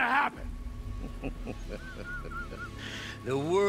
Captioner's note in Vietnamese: Cười